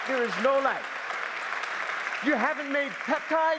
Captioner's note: applause